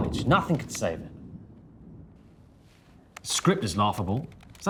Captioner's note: thunder rumbling